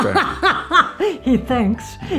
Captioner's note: laughs